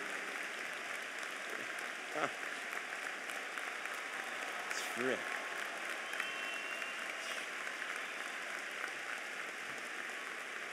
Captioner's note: applause